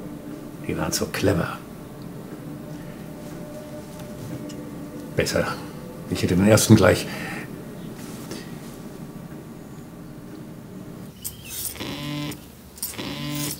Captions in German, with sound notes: die waren zu clever. Besser, ich hätte den ersten gleich ... (Handy vibriert.)